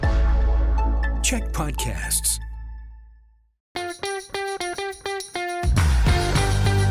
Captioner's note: announcer voice